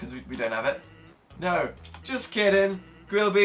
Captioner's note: clicks